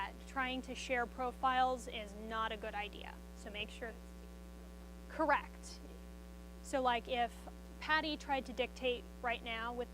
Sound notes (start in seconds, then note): 4.5 student speaks faintly